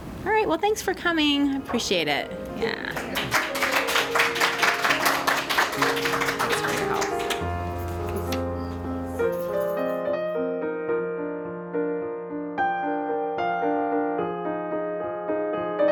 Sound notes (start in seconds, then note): 2.9 applause; 7.4 closing music